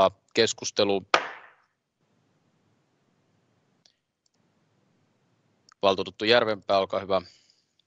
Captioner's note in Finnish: nuijan kopautus